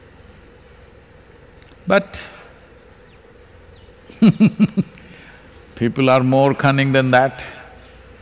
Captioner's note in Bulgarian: смее се